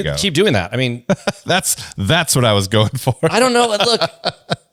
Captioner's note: laughs